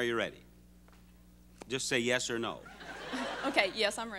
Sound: audience laughing

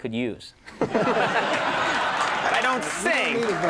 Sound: all laughing

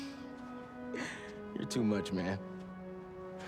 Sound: laugh

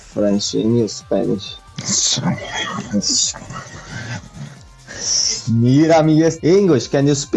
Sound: murmuring in Spanish

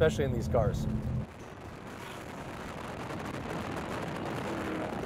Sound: wind whirling

